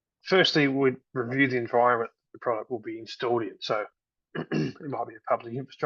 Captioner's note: clears throat